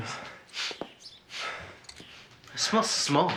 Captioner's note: Joe sniffing